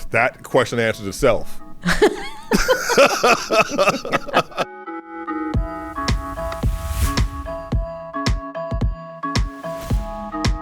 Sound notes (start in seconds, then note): 1.8 laughs; 4.9 rhythmic electro music